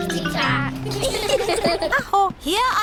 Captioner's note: all giggle